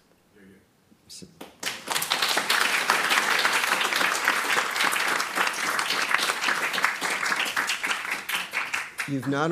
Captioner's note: audience clapping